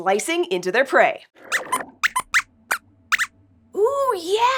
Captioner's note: squeaks squeaks